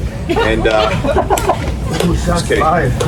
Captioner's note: members of the audience laughing